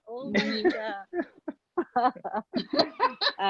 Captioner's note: laughing